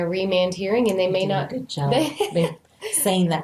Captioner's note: laughs